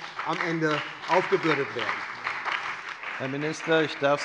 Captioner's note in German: Beifall bei dem BÜNDNIS 90/DIE GRÜNEN, der SPD und der LINKEN